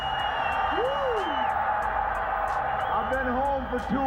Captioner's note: crowd cheering